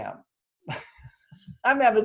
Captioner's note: chuckles